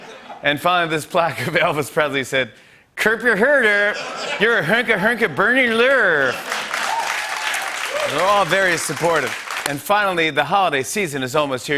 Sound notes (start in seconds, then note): 6.2 cheering and applause